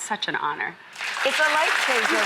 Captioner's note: applause